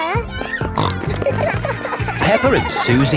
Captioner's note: snorting